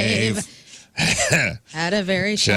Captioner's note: laughing